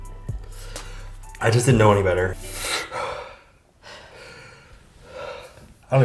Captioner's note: breathes loudly